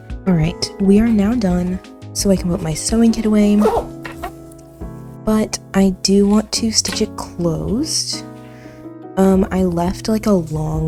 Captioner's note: zips closed